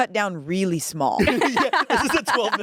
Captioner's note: everyone laughs